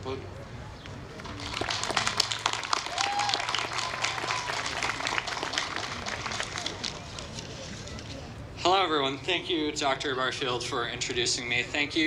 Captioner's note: applause